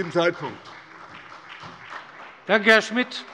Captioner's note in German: Beifall bei der SPD